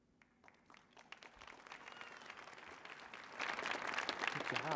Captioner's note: audience applauding